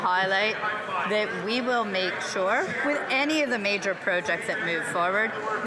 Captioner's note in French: voix de l'interprète